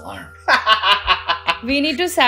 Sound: laughter

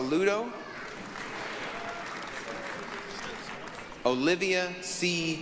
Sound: applause

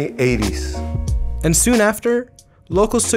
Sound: voiceover

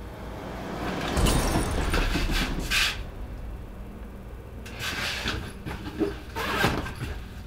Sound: swishing; glass scattering; zipper scratching

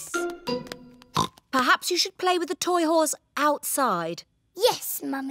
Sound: oinks

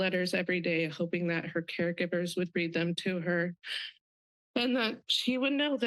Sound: sobs

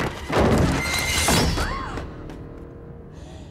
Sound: thudding; shrieking

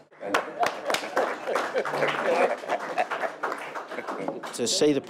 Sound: applaud

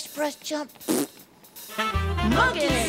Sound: raspberry Sound

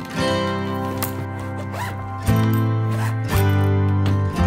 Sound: zippers sliding

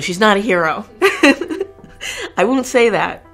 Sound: laughs

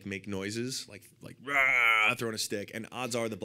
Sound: roars

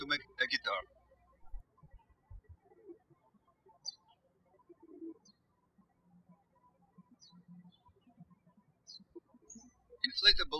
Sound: birds chirping

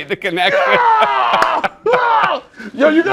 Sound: laughter and screaming

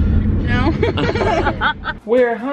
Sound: laughing

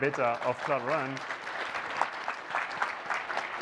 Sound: applause

